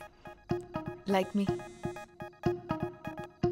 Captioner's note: Phone vibrating